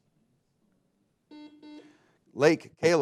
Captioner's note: buzzer beeping